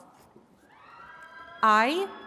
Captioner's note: attendees cheering